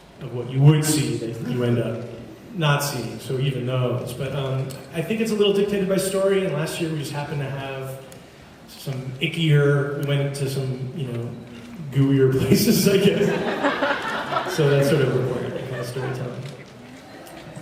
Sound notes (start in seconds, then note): 13.2 laughing